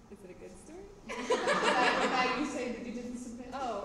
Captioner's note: laughter